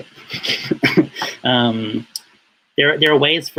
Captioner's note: laughs